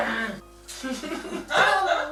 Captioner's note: laughs